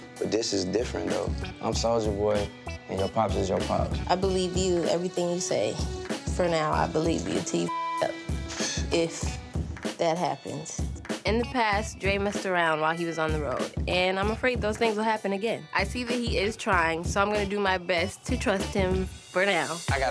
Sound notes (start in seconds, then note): 7.6 beep